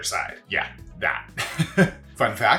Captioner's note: laughs